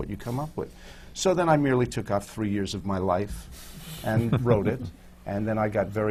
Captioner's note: laughs